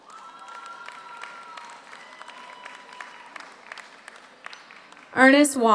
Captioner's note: audience cheers; audience applauds